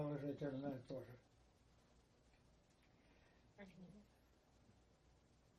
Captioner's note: pause 7 seconds